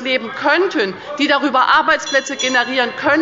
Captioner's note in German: Anhaltende Unruhe – Glockenzeichen des Präsidenten